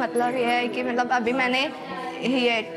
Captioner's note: speaking hindi